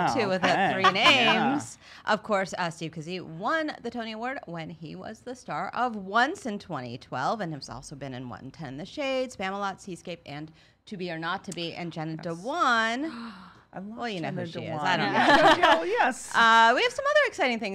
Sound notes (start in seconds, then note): 0.2 laughs; 13.0 gasps; 15.0 laughs